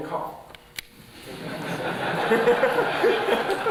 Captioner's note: laughter